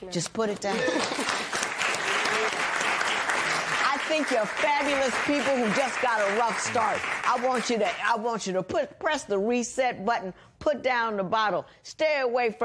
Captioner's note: cheers and applause